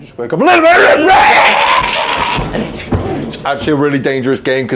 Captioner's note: yelling